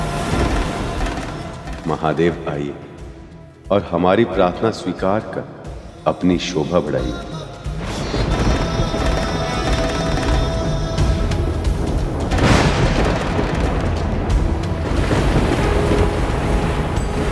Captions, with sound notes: Sir Mahadev... ...accept our prayers and make us proud. [thunder rumbling] [thunder roaring]